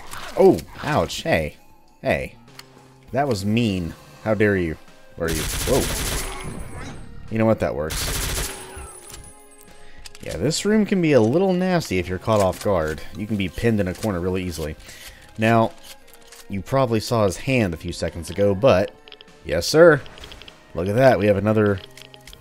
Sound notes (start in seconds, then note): 5.3 Ingram firing